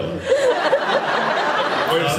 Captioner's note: laughs